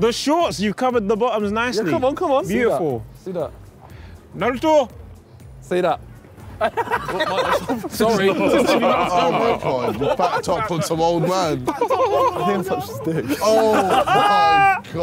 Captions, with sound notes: - The shorts, you covered the bottoms nicely. - Yeah. Come on, come on. - Beautiful. - See that? - Naruto. Say that. (all laughing) - Sorry. (all chattering)